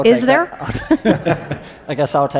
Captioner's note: laughing